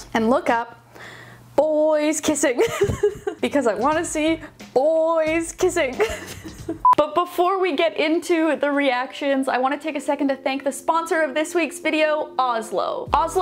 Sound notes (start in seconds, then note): 2.6 laughing; 6.8 beep